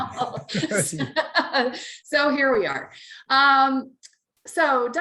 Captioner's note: both laugh